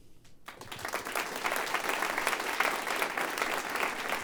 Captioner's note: applause